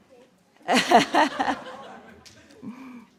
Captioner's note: laughter